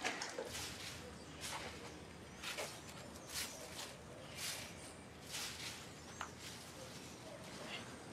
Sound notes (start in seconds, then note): 1.0 steps on dead leaves